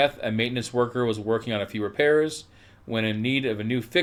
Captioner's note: none